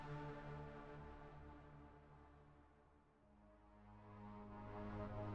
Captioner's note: none